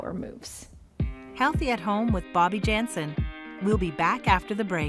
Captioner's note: voiceover